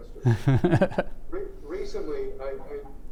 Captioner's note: laughs